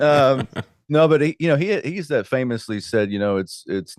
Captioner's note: laughing